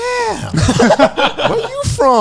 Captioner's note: laughing